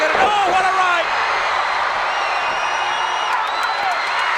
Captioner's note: crowd cheer